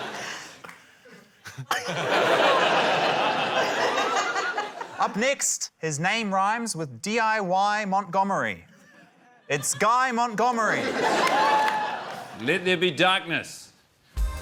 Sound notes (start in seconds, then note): 0.0 laughter; 10.5 laughter